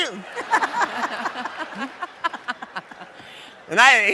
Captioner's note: audience laughs